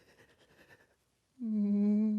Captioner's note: sobs